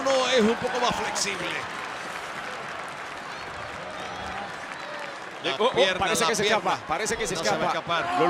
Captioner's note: applause